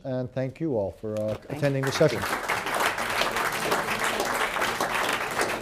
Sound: applause

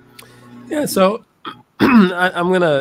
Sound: cough

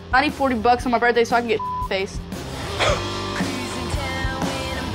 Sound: laughs

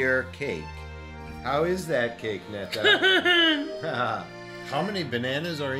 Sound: laughing

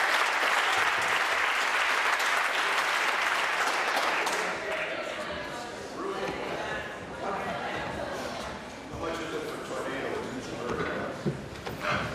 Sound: applause

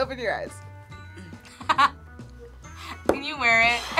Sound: laughs

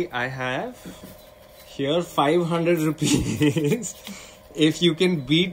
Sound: laughs

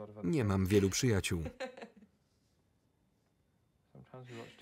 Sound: Mary laughs loudly

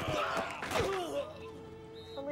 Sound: grunting and groaning

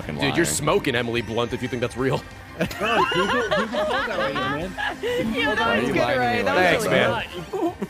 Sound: laughs

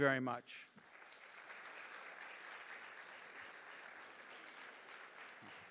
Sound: audience applauding

